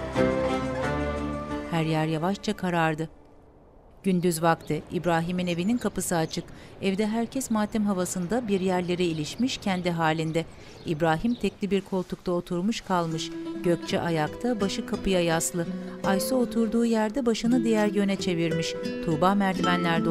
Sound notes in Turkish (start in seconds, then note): 4.2 Kuş cıvıltısı sesi; 13.2 Müzik - Duygusal